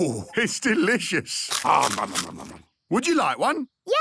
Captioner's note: crunching